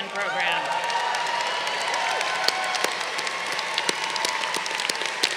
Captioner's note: crowd cheering